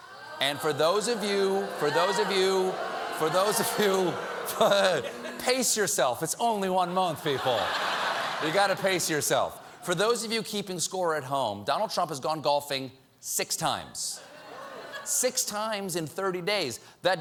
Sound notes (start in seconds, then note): 4.8 audience booing